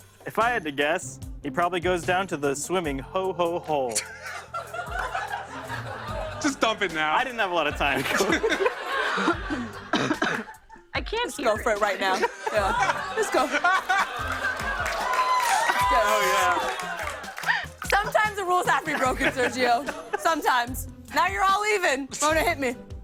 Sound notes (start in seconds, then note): 3.9 laughter; 13.6 cheers and applause